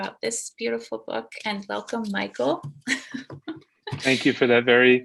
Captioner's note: laughs